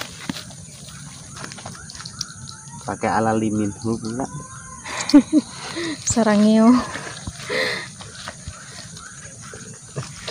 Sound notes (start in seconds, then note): 6.5 ha ha ha